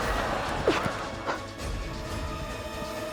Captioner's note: grunts, chuckles